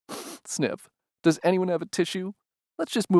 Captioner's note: sniff